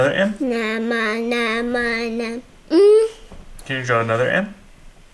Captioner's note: babbling